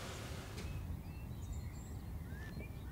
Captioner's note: birds chirping